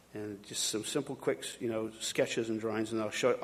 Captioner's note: none